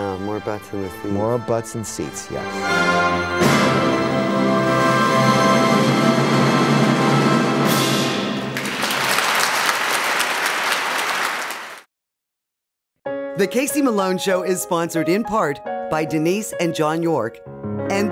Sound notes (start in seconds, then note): 3.6 orchestral music; 8.4 applause